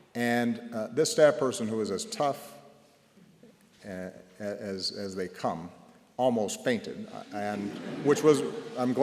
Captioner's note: laughter